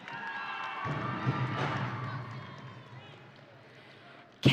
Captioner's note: audience cheering